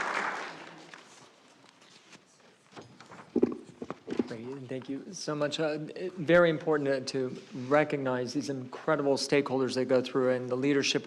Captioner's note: applause